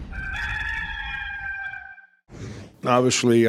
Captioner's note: rooster crows